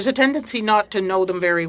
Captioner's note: speaking French